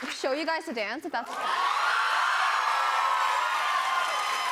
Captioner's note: cheers and applause